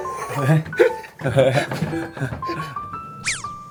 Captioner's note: urgent knocking